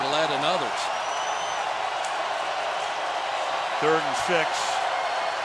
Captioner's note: cheering